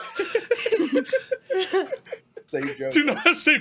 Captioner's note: all laughing